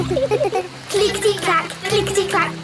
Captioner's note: laughing